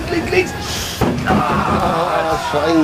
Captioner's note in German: Rumpeln